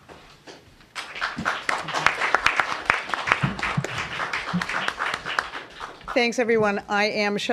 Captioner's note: applause